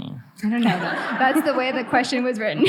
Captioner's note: audience laughing